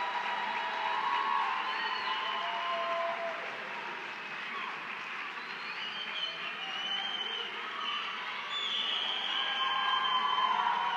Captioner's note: applause